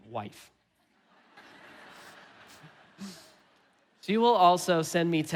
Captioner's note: laughing; congregation laughing